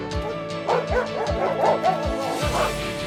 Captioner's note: barking